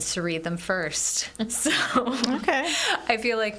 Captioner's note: laughs